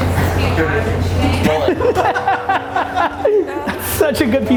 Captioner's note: laughter